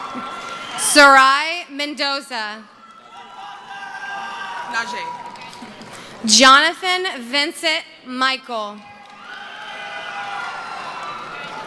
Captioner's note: cheering